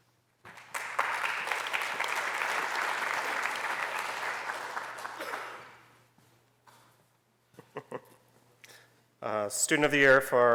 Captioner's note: applause